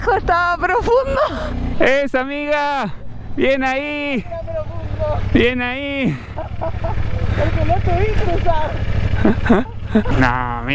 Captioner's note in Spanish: risas